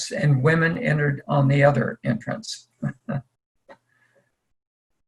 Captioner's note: laughs